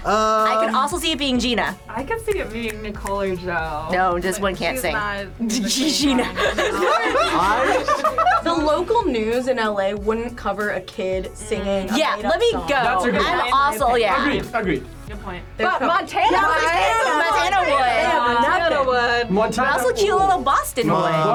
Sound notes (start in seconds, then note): 5.4 laughs; 5.5 group laughs